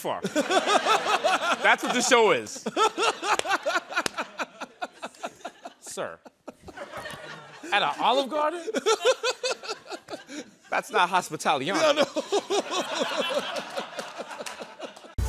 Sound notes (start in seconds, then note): 0.3 laughter; 9.0 laughter